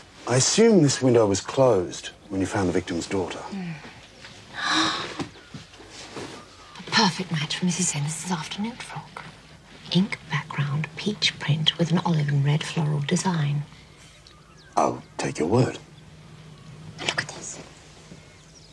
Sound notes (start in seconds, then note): 4.3 gasps